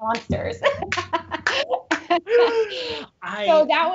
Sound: laughing

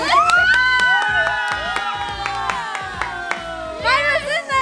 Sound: applauding

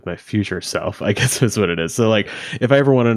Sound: chuckles

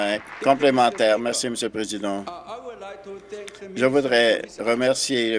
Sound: applause

